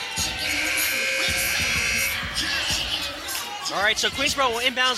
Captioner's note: buzzer sounding